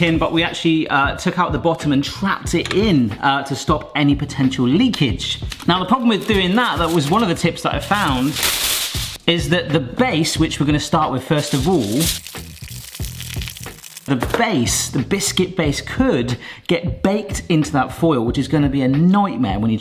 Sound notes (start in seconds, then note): 7.8 foil tearing; 11.3 foil rustling